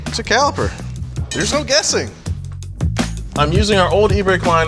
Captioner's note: metal clanks